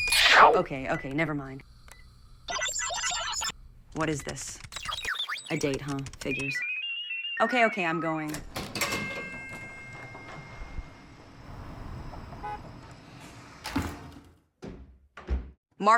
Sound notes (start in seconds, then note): 2.4 display beeping; 8.2 elevator dings; 12.4 car horn honks